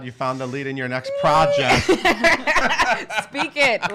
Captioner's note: laughing